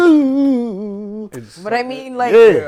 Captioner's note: humming